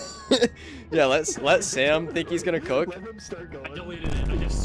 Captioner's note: laughing